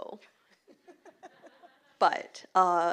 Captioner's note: laughter